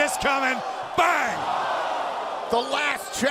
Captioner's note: crowd cheering